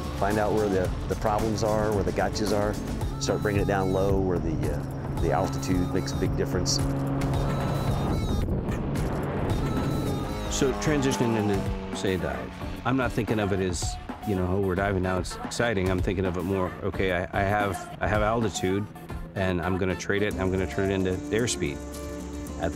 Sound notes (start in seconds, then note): 7.0 airplane humming; 7.0 energetic music